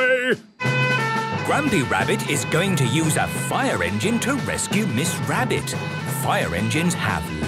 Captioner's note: sirens